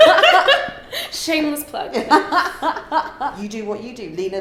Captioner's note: laughing